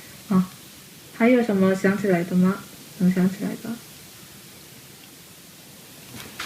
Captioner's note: speaking in Chinese